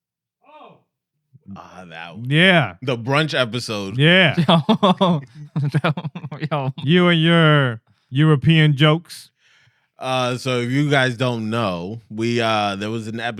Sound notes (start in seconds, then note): 5.5 laughter